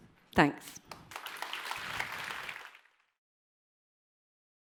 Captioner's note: applause